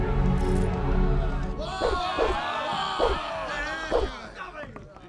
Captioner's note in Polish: okrzyki załogi i odgłos wymachiwanych ostrzych